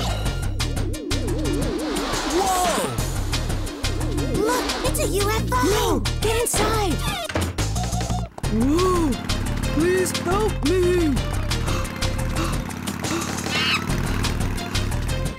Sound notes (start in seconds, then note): 11.6 panting; 13.5 Screech